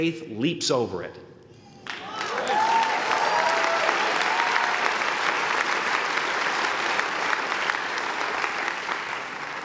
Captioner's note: applause